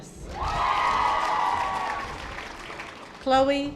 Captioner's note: audience applause